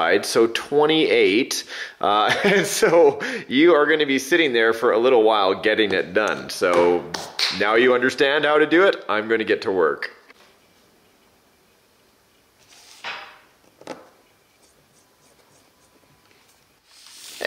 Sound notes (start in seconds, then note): 13.2 metal clanging; 15.1 screwdriver twisting sounds